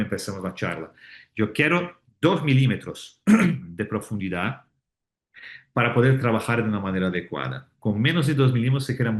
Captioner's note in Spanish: carraspeo